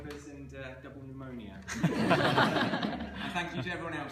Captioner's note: laughter